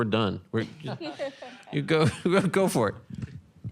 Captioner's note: audience laughs